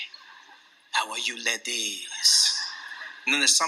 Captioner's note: laughter